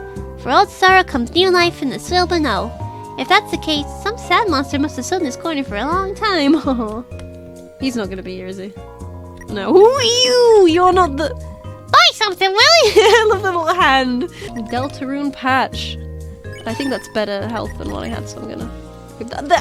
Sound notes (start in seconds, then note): 6.7 laughs; 12.8 laughs